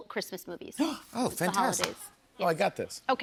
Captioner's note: gasps